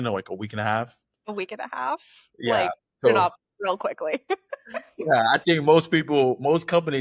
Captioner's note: laughter